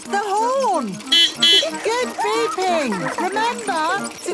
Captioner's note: giggling; beeping